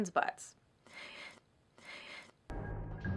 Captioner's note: weird breathing